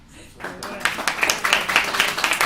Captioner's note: applause